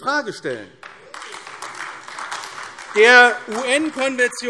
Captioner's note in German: Beifall AfD